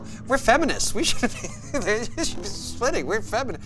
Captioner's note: laughing